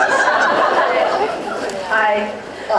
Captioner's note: laughs